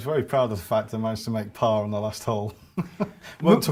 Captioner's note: laughs